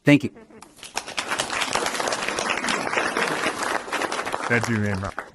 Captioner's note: applause